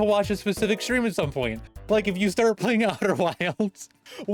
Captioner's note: starts laughing